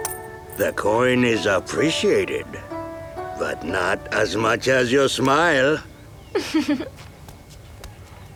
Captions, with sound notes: The coin is appreciated, but not as much as your smile. [giggling]